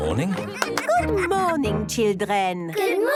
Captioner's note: claps